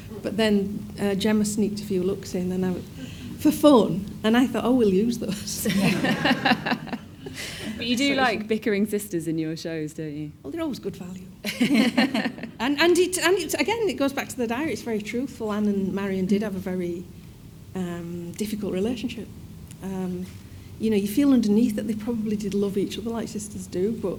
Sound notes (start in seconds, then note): 5.6 audience laughing; 11.5 all laugh